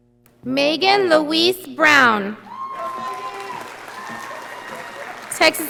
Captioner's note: audience applauding